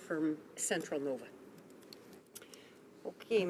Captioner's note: speaking French